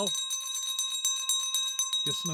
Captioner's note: bell ringing